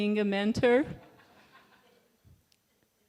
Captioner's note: laughter